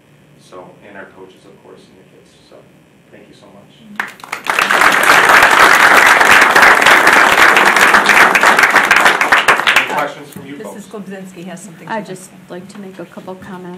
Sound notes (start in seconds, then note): 4.0 audience applauding